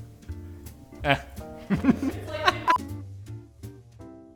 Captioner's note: laughter